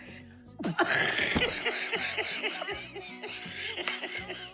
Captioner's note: laughing